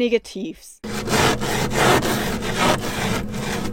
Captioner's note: scratching the window